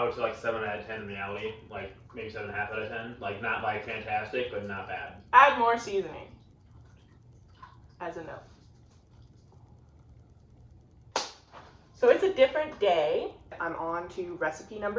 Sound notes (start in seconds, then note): 8.5 silence; 11.1 clap